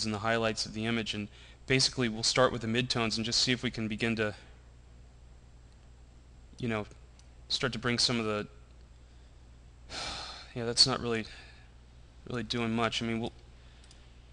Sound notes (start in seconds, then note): 9.9 sigh